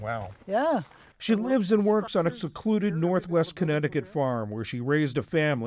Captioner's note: voice-over